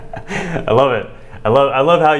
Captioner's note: laughs